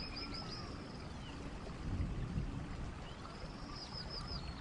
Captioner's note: birds chirping